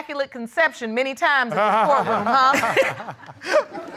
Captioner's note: laughs